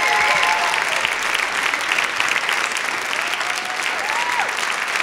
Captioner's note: applause